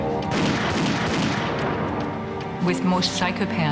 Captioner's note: gun fires rapidly